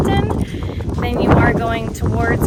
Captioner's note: air whooshing